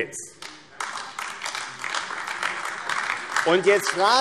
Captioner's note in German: Beifall AfD